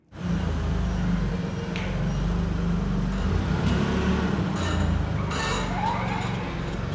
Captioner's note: engine purring; forklift beeping